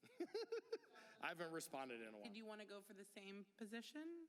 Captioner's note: laughter